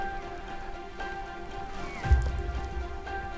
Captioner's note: caller cow calling